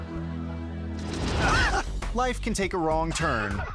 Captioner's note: audience laughing; reflective music; friend laughing; logo swooshing